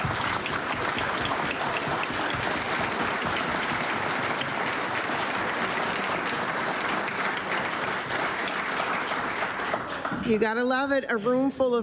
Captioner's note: cheering and Applause